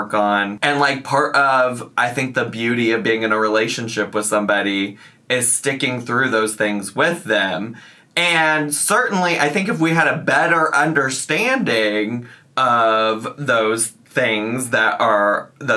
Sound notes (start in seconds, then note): none